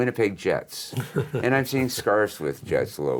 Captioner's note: laughs